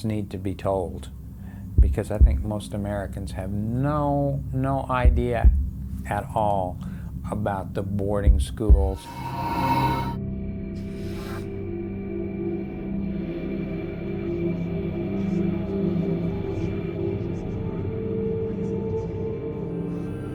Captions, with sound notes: Because I think most Americans have no, no idea at all about the boarding schools. (chilling music) (haunting music) (text whooshing) (haunting music continues)